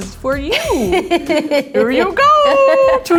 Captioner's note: laughing